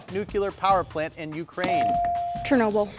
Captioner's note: buzzer dinging